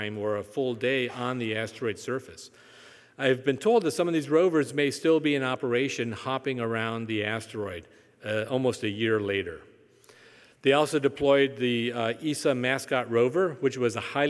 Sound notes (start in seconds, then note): none